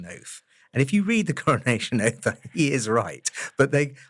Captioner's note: laugh